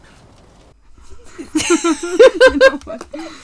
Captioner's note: laughter